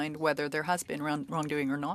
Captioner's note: speaking French